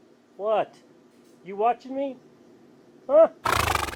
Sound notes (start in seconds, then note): 3.4 horse snorts